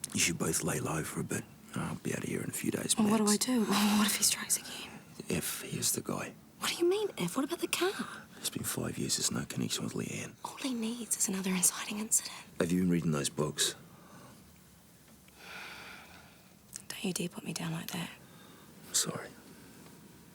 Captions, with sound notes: You should both lay low for a bit. I'll be out of here in a few days max. - Well, what do I do? What if he strikes again? - If he is the guy. - What do you mean if? What about the car? - It's been five years. There's no connection with Leanne. - All he needs is another inciting incident. - Have you been reading those books? (Jodie sighs) - Don't you dare put me down like that. - I'm sorry.